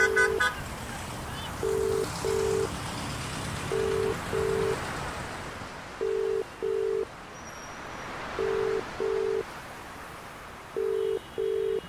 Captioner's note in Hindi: फोन की घंटी